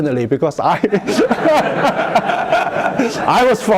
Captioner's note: laughter